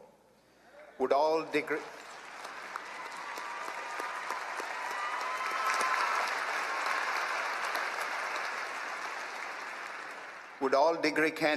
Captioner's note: applause